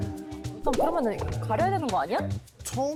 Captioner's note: A slightly uncomfortable sound effect